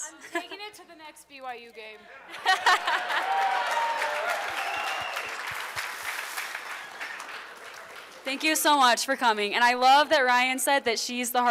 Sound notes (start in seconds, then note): 2.2 laughter; 2.7 applause